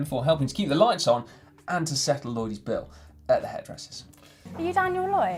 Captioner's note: none